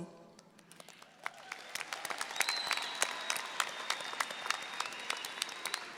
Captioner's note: audience applauding